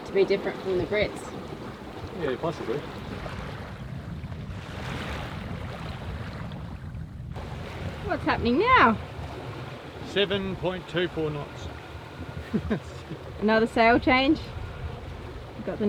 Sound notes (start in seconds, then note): 3.8 waves splashing; 12.3 laughs